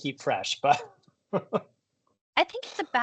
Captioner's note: chuckles